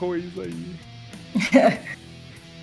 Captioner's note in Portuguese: risos